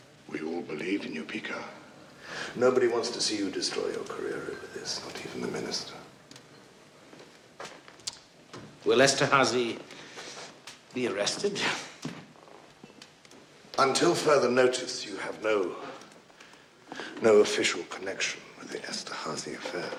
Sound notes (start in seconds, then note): 7.5 clicks tongue